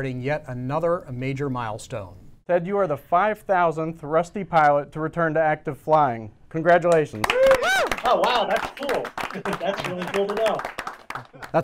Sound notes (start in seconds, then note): 6.9 clapping